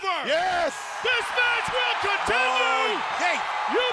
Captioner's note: audience cheers